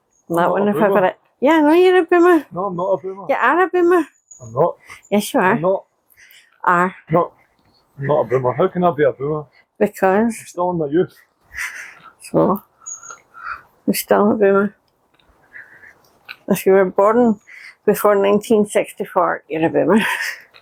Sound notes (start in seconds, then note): none